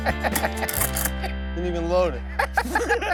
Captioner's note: man laughing; gun clicking